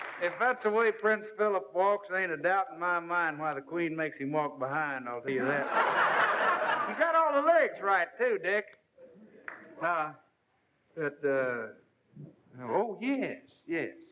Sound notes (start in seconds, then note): 5.4 laughter